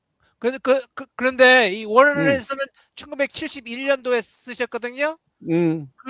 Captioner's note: non-english speech